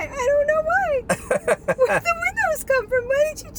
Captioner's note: laughs